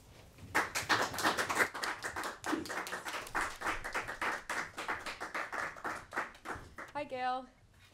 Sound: applause

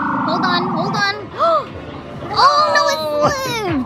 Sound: gasping

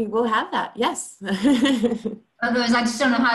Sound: laughing

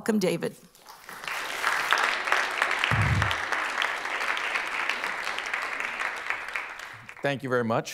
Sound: applause

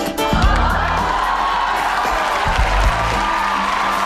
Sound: audience cheers

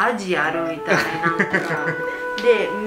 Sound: laugh

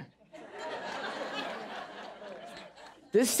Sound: audience laughing

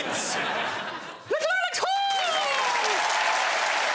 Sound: high pitched voice; applause

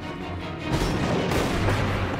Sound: thunder crack

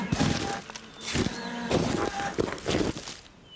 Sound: scraping

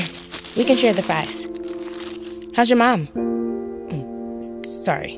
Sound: paper crinkles

